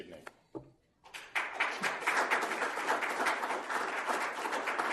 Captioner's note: applause